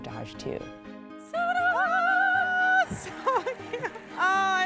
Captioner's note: Ibtihaj screams